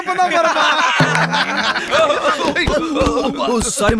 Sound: laughs

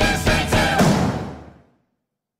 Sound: bang

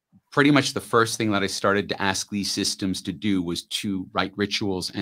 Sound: none

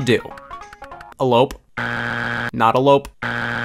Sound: buzzer beeps

